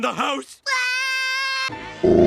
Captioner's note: Bart Screams; Loona Enters & Growls